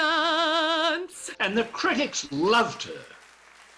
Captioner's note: audience cheering